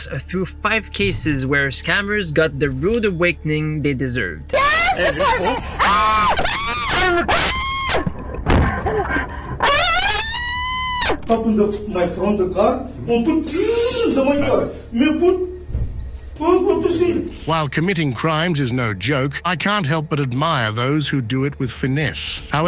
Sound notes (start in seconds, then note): 4.5 suspect screaming